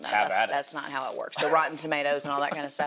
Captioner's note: chuckles